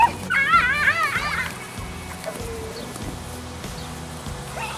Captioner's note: children laughing